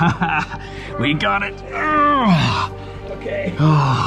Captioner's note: laughs; grunting